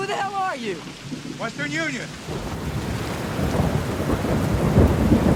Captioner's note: thunder rolling